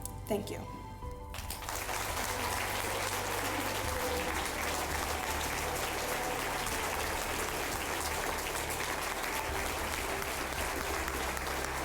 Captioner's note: applause